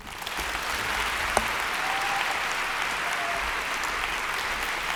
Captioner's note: audience applauds